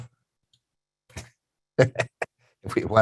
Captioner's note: chuckles